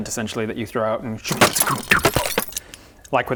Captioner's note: expanding tent noises